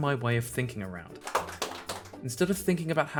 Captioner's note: polite applause